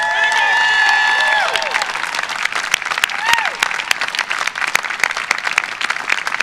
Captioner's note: applause